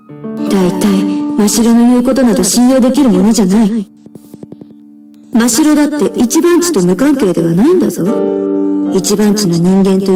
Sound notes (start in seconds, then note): none